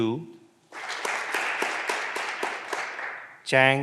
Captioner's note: clapping continues